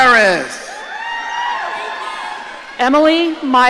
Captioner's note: audience cheering